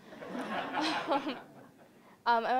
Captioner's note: audience laughing